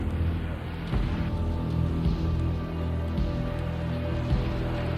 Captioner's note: vehicle whirring